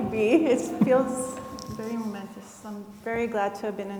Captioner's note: chuckles